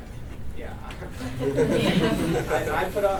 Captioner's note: laughter